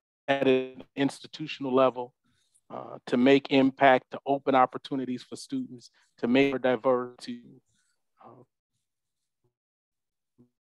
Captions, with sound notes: at an institutional level to make impact, to open opportunities for students, to make diversity (audio cuts out),